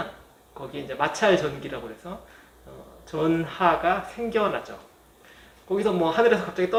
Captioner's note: static